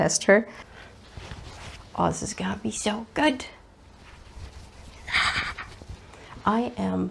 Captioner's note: gremliny excited noise